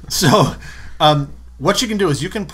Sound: laughter

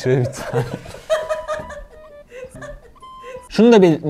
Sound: laughter

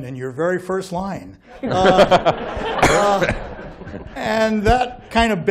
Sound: laughter

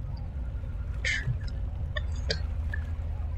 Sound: muttering

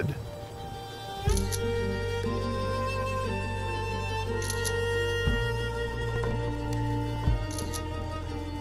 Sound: camera shutter clicks three times

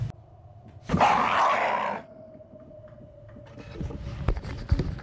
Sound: screams

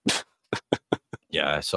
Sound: laughs

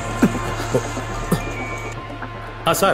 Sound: phone Ringing

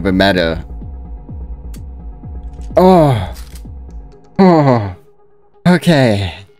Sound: sigh of relief

